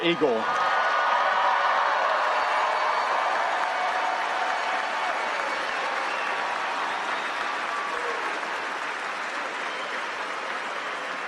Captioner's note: cheering